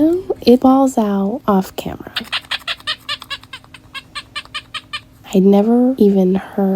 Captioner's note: doll crying sound